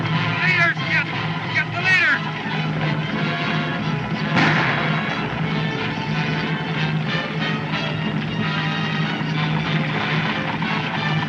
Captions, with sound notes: The leaders, Kid! Get the leaders! [Gunshots Continue]